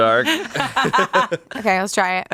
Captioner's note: everyone laughs